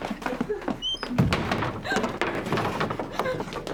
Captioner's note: footsteps; door creaks